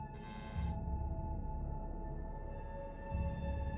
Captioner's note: static sounds